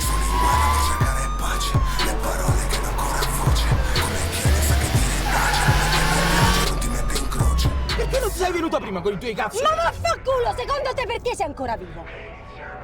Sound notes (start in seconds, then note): 0.3 tire screeching; 2.0 siren wailing